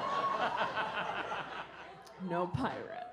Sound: audience laughs

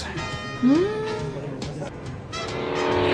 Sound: Madi moans suspiciously

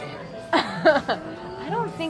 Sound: laughs

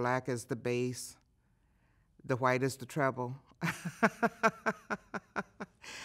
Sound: laughing

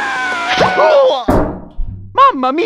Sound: screaming; groans

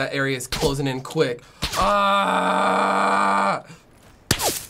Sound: yells in frustration

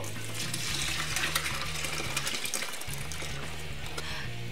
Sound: juice splashes

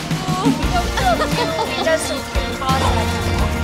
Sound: laughter

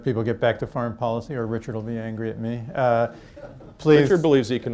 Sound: laughter

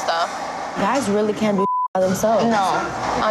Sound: beep

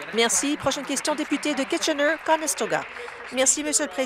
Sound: applause

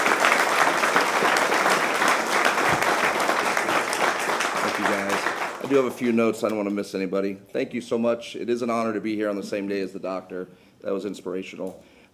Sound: applause

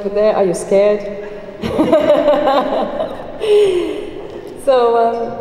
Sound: laughs

